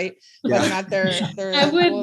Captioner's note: laughs